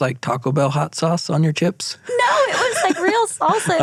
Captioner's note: laughing